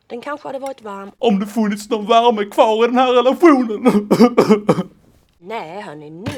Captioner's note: sob sob